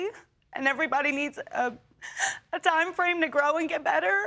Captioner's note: sobbing